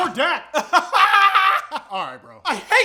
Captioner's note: weird laughter